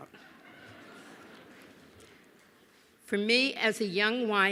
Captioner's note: laughter